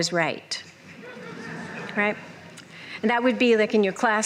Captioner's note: laughter